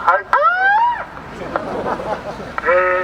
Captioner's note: siren sounds